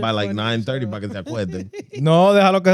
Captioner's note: speaking Spanish